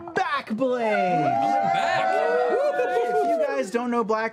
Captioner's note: cheering